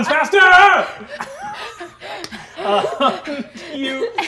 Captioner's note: all laugh